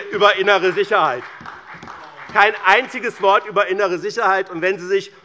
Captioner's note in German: Beifall bei BÜNDNIS 90/DIE GRÜNEN und der CDU